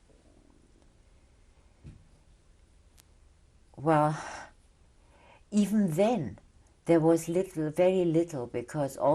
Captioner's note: pauses for 3 seconds